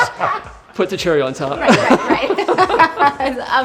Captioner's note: laughs